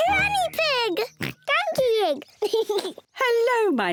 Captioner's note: giggles and oinks; oinks; laughs